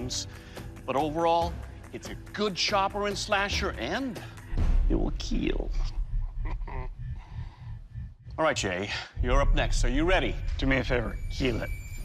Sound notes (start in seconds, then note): 6.1 chuckles